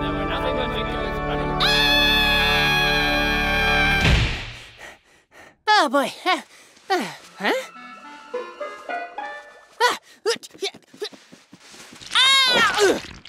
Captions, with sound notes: (screams) - Oh boy, ah, huh? Ahh!